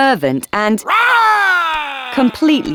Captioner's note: Paul roaring